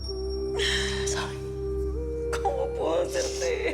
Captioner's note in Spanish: Sollozos